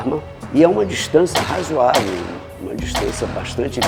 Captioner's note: noise of gunshots